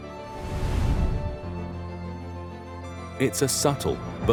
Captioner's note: graphics whooshing